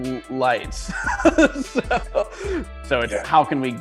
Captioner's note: laughs